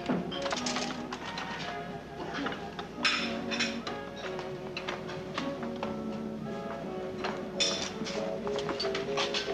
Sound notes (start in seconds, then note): 4.2 plates clattering